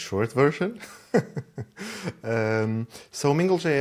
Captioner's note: laughs